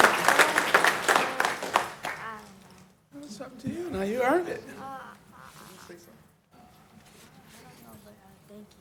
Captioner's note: applause